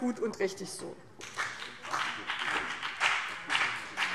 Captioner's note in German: Beifall BÜNDNIS 90/DIE GRÜNEN und vereinzelt CDU